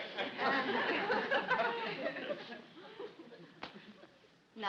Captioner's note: audience laughs